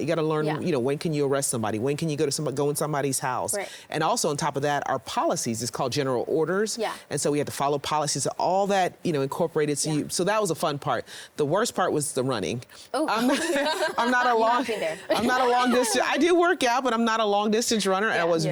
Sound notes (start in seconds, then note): 13.1 everyone laughing